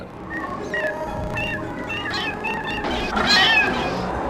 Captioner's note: animals crying